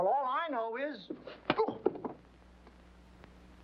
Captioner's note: whack